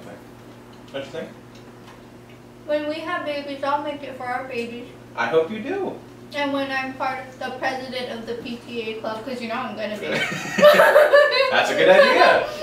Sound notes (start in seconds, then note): 10.1 laughs